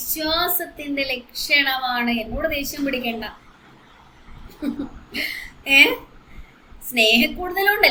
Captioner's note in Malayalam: പൊട്ടിച്ചിരി